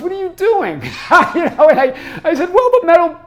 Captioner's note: laughs